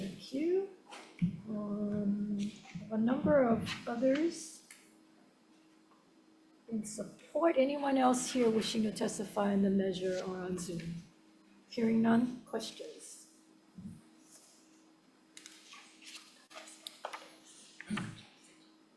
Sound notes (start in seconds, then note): 13.9 senator whispers